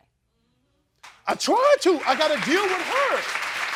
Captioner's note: crowd applauds